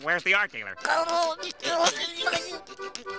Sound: laughing

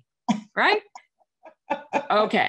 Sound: chuckles

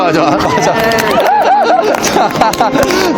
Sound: fiery cheers

